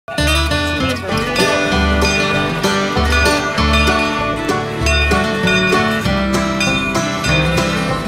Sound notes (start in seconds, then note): 0.0 upbeat banjo music; 1.1 train bell clanging